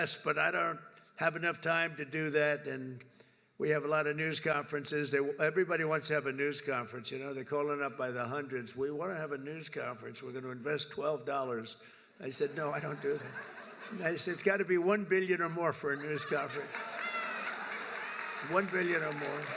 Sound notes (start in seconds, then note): 12.4 laughter; 15.8 laughter and applause